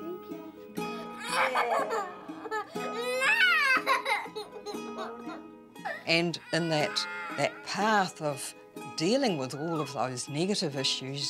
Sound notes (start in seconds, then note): 0.7 squeals